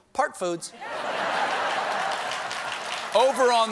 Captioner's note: laughter; applause